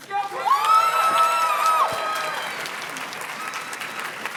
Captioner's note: audience cheers and claps